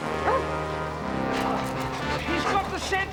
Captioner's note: dog barking